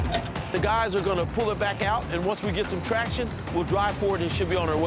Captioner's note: shivering